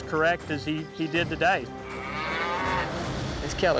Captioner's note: mooing